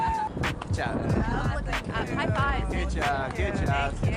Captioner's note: people talking